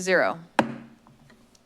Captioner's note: gavel thumps